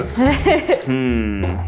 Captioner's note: laughs